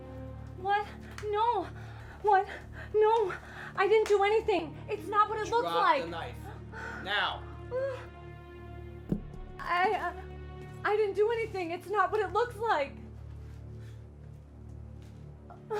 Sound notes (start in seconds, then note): 9.1 knife thuds on the floor; 13.2 eerie music